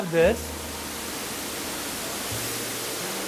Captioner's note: water whooshing